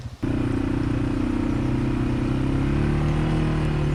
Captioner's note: engines humming